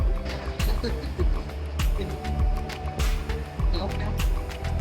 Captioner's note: laughing